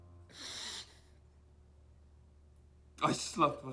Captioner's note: Lance inhales deeply